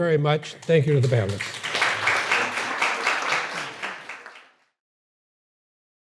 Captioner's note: audience applauding